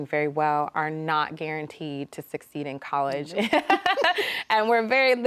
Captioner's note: laughs